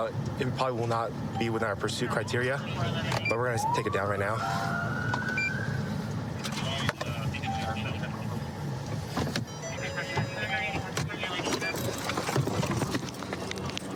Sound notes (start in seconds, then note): 3.2 police siren; 9.4 car door chiming